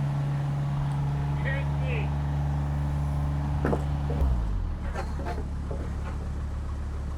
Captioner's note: motor humming